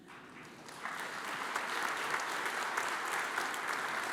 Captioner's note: audience applauds